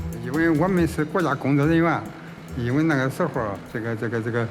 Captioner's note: hablan un idioma extranjero